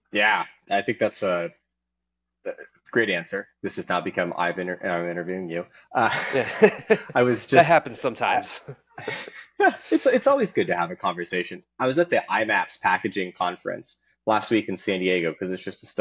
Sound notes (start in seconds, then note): 6.1 chuckling